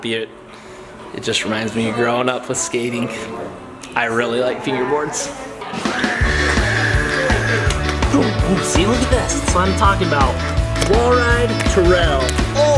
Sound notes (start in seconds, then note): 5.9 dad mimicking fingerboard whooshing